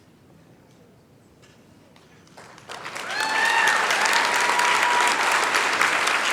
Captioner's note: applause